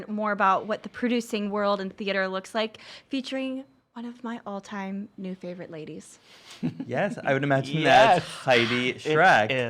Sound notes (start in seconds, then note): 6.6 giggling